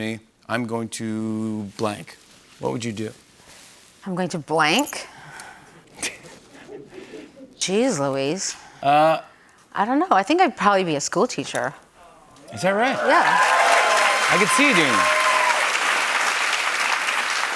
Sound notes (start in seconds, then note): 6.3 light laughter; 12.5 cheers and applause